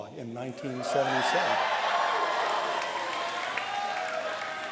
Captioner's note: cheer and applause